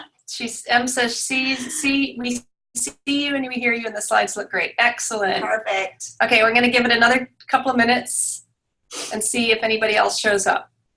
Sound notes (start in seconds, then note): 0.3 stammering